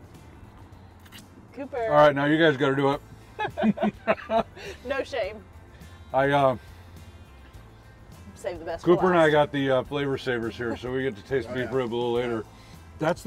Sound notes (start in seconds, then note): 3.3 laughing